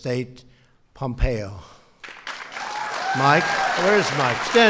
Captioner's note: applause